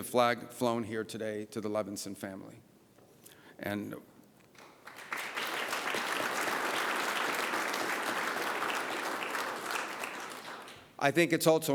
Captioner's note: applause